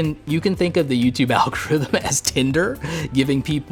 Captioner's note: chuckles